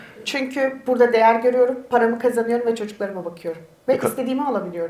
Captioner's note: speaks in Turkish